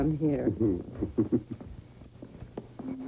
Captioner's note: chuckles